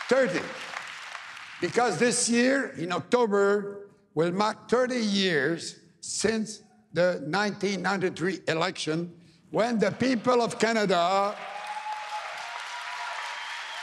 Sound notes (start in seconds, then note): 1.8 applause